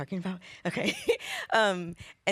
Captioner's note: laughs